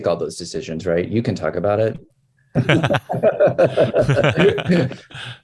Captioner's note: group laughs